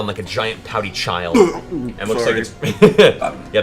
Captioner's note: retches